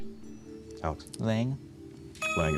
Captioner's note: buzzer